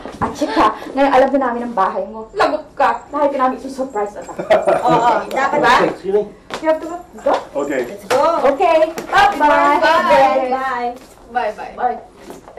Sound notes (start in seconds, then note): 4.2 Frank laughs